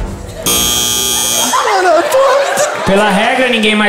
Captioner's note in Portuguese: campainha